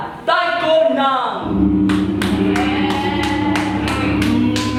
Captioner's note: gong sound